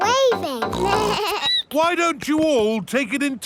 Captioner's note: snorts; bleats